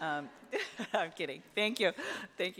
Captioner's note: laughs